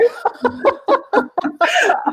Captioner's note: laughing